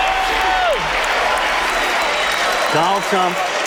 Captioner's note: crowd cheers